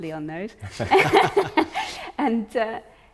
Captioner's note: all laughing